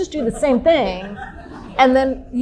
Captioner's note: audience laughing